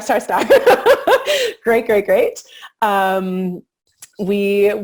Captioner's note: laughing